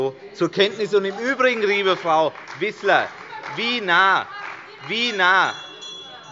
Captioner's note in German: Beifall bei der CDU – Zurufe von der SPD und der LINKEN